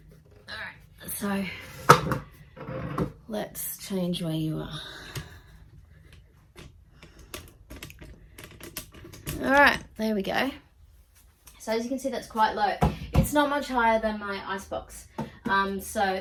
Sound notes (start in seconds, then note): 2.5 gentle thud and scrapes; 7.0 light plastic noises as tripod shifts; 12.8 thumps on plastic top